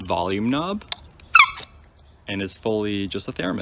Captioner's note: squeak